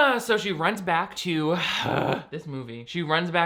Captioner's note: exhales sharply